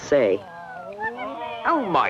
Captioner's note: moaning and wailing